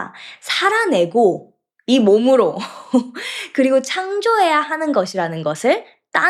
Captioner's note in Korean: 웃음